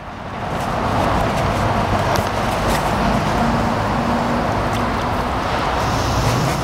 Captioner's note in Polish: odgłos przejeżdżających pobliska drogą samochodów